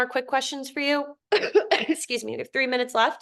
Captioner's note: facilitator coughs